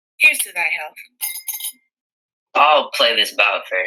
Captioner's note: glass clinks